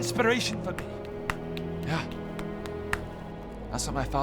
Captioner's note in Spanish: percusión del ombligo